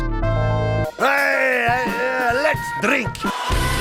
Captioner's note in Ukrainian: белькоче